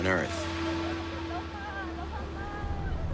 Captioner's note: woman shouting in the distance